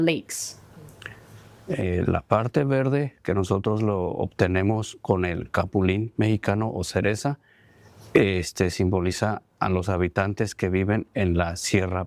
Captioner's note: speaking spanish